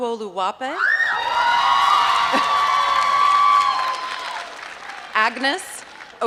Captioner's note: applause